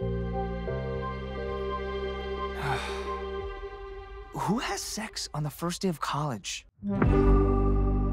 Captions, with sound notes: (sighing) Who has sex on the first day of college?